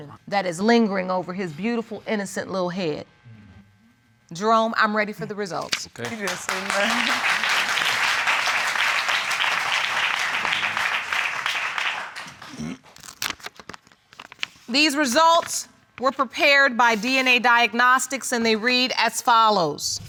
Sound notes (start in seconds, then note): 6.0 audience applauding